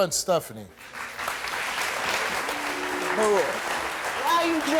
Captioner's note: applauding